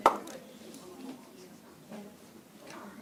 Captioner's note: applause